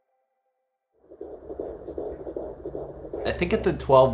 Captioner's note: heart beating